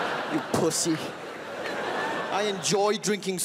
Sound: crowd laughs

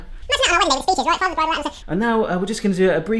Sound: fast forward speaking

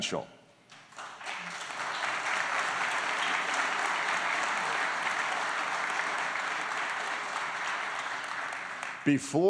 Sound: applause

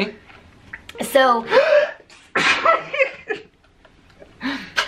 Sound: sneezes

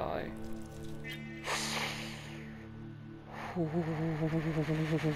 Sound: sharp inhale of relief

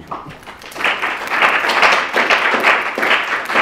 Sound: clapping

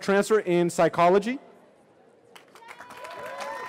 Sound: cheering

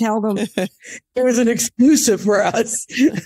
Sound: laughs

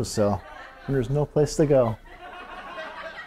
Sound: laughter

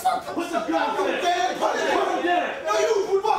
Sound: man yelling; men yelling

